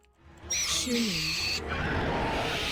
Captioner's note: Mandarin language